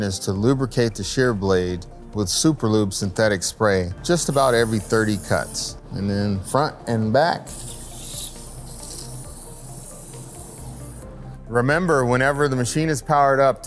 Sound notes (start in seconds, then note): 7.4 spray hissing